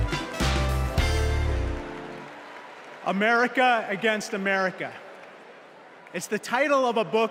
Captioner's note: applause